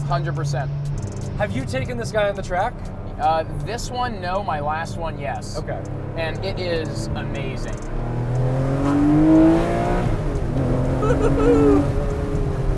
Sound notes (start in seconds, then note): 8.1 engine roars